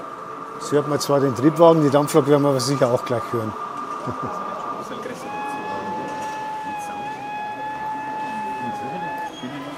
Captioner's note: 2x locomotive whistles